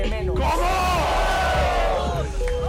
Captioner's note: cheering